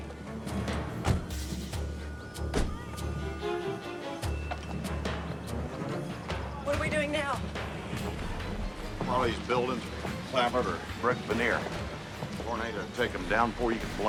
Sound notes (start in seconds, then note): 2.3 police siren; 5.8 dramatic music